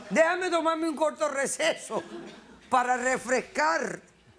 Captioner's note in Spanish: Risas